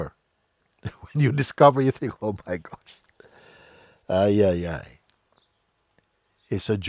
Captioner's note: lacht